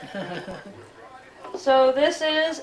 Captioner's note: chuckles